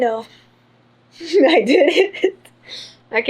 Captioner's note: laughs